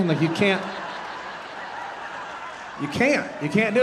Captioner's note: audience laughing